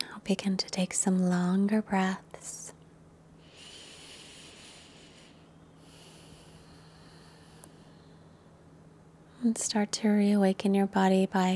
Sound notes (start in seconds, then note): 3.4 deep nasal breathing